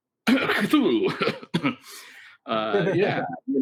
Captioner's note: fake coughs